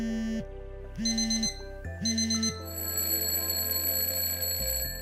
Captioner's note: phone vibrating; alarm ringing